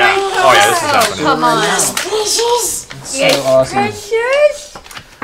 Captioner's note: Gollum voice